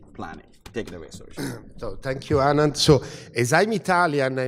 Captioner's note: cough